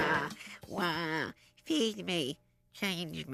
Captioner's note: imitating baby's cry